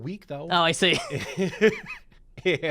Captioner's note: laughs